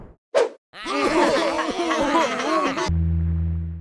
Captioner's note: laughing